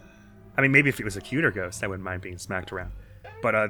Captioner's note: maximum sub voice